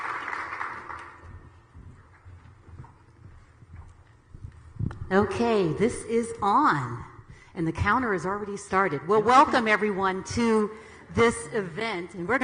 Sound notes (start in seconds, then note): 1.2 shoes clacking